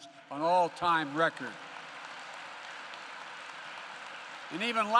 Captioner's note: applause